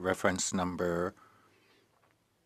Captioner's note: speaking French